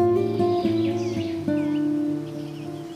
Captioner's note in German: Vogelgezwitscher